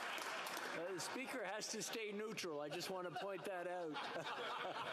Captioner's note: some Applause